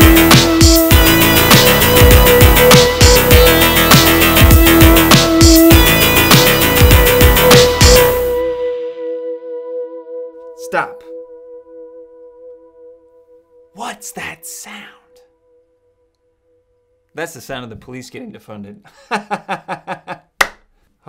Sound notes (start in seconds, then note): 15.6 whispering; 18.9 laughter